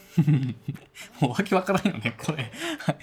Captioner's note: laughs